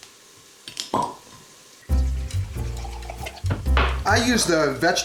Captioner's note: cork pops